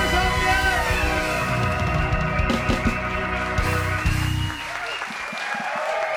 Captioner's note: audience cheering and applauding